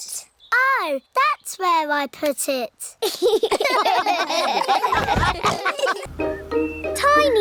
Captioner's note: all laugh